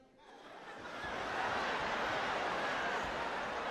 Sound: audience laughing

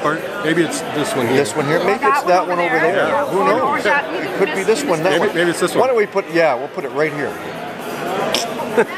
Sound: phhh

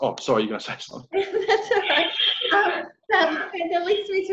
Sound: laughing

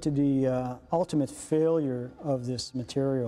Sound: voiceover

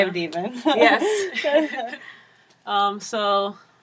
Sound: laugh

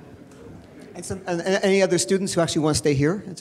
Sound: male Voice

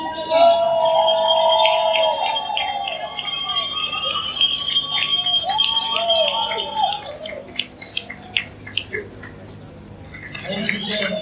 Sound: crowd cheering and clapping

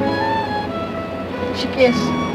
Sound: speaks Diné, Navajo language

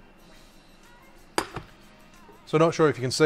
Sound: pan thuds

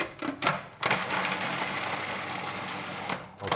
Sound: processor whirring

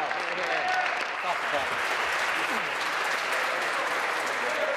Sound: applause

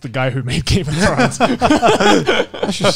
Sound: everyone laughs

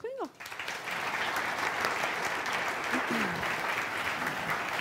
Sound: audience applauding

